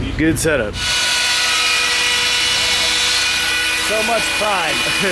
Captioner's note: drilling